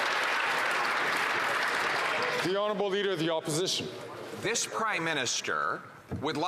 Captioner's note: some Applause